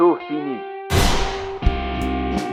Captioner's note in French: coup de feu